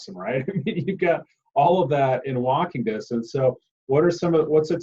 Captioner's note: laughs